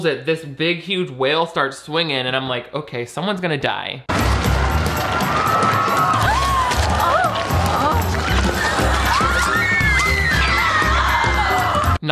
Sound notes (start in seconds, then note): 4.1 frantic music; 5.1 everyone screaming